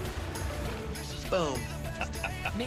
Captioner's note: laughs